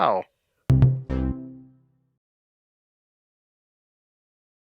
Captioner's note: electronic tones